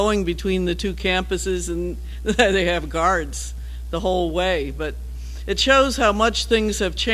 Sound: laugh

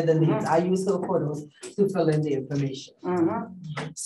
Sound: none

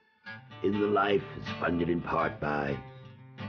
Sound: Harvey Fierstein over theme music

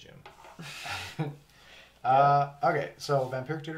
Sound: laughs

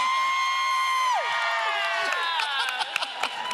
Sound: audience cheers

